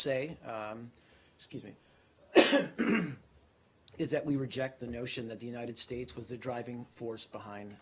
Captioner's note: coughs